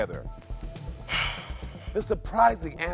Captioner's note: sighing